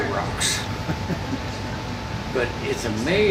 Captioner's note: laughing